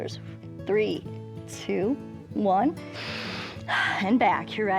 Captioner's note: inhales and exhales